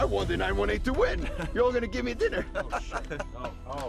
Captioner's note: laughter